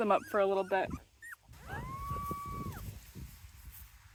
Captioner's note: puppy whimpers